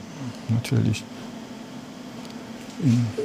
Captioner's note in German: Maschinenlärm